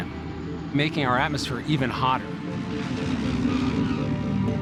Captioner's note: plane tires squeal